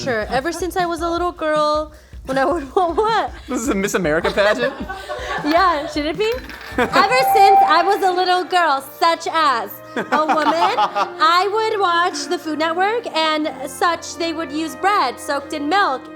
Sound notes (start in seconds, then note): 4.7 laughing